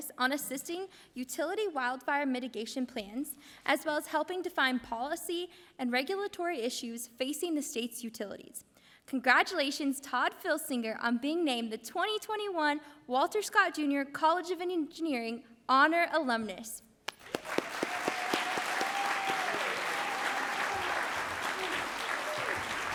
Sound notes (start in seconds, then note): 17.1 audience applauds